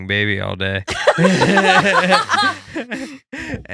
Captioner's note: laughing